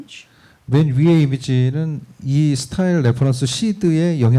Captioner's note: speaking korean